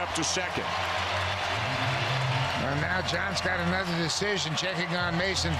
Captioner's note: cheering